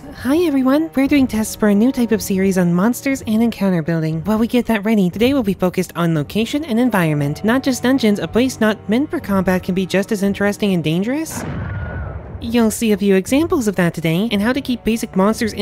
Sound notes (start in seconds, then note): 11.4 muffled explosion and screaming